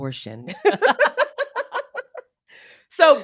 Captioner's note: both laugh